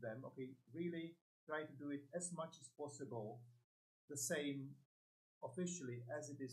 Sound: none

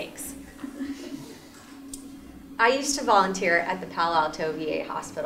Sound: laugh

